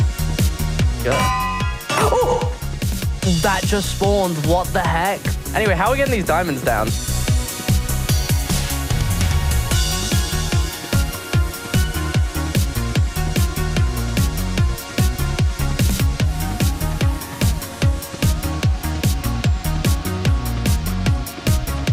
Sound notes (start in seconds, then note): 1.0 anvil clangs